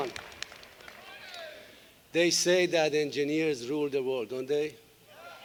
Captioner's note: applause